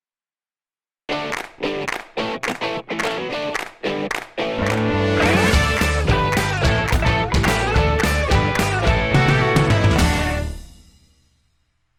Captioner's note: claps